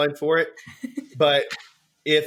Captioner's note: laughs